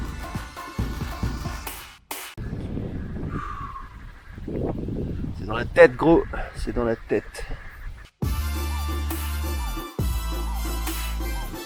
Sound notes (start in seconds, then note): 2.4 wind blowing